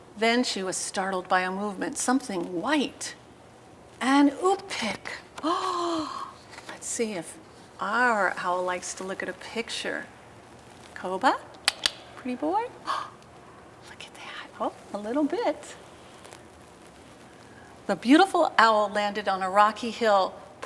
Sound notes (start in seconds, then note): 5.4 gasps